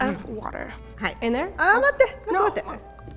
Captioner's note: speaking in Japanese